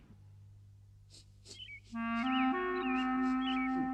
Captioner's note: sniffs the air